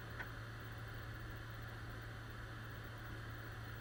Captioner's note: none